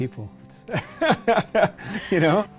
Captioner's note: laughs